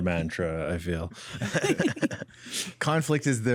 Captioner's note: laughs